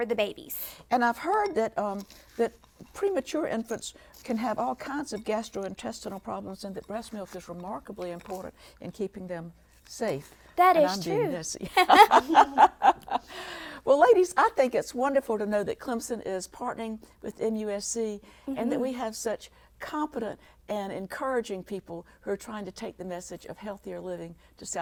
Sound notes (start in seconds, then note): 11.6 laughter